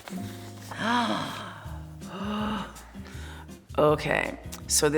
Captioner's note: gasping